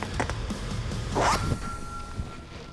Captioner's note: ringing sound